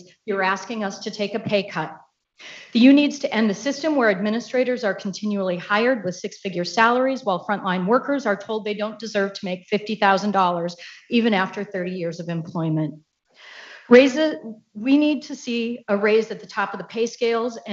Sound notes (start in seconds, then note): none